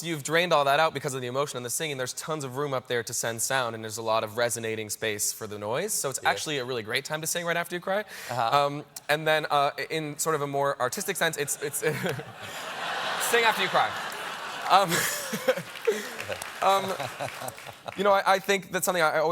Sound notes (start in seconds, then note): 14.9 laughter; 16.9 applause